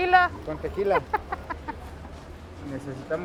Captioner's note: laughs